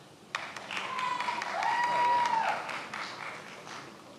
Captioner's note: many applauding